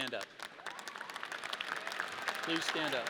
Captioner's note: audience cheering